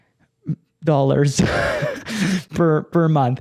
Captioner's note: chuckles